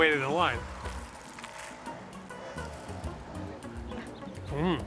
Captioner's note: loud crunch